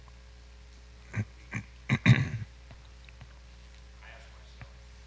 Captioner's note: clears throat